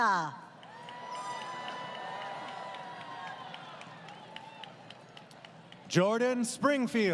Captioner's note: crowd Cheering